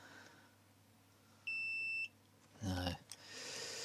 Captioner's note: beeping